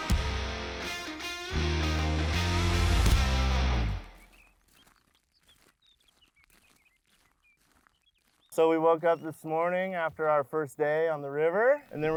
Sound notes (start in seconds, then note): 0.0 energetic rock music continues; 4.1 birds chirping